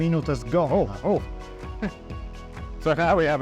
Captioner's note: laughs